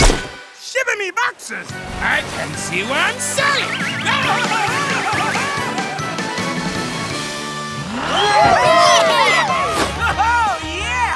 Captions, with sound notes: Shiver me boxers! I can't see where I'm sailing! [shouting] [cheering] Oh, yeah!